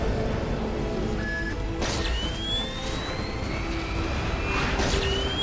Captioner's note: exploding